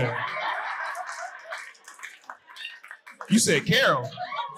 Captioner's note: audience cheering and applauding